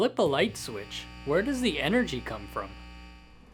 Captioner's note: energy hummming